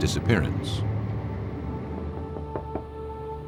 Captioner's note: knocking